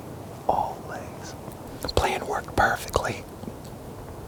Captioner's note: whispering